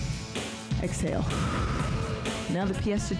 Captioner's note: breath hisses